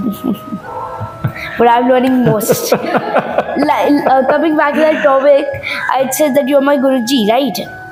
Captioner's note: laughs